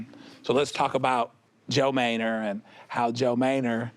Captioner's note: none